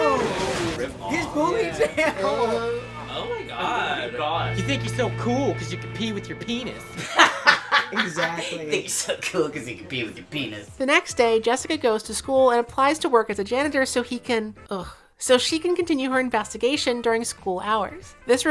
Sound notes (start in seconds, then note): 1.5 excited murmuring over the ponytail grab; 10.5 laughs